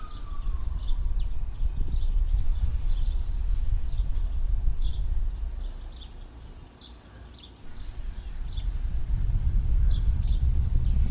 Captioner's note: explosions still going